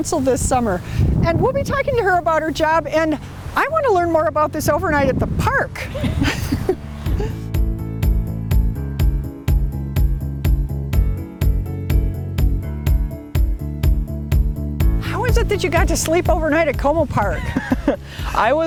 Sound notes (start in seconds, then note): 5.8 laughing